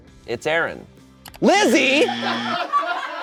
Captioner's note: buzzer blares; audience laughing